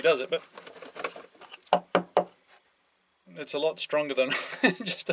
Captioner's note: shaking and knocking